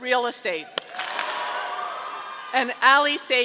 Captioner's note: audience cheering